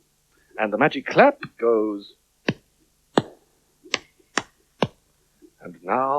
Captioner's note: claps